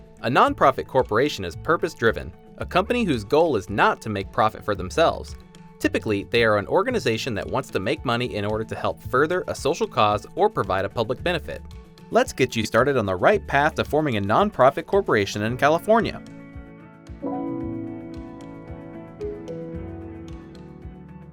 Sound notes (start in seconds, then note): 17.3 chime dings; 18.6 calm music